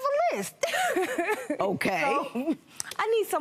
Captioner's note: laughs